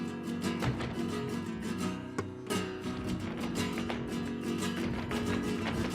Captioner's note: man exclaiming in foreign language; heels rhythmically clicking